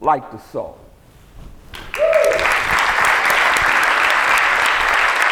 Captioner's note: whooping, applause